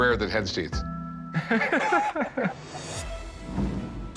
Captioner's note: laughs